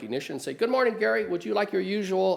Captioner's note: in a higher tone